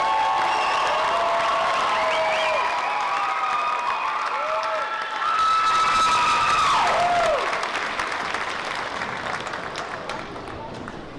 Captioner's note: cheering; applause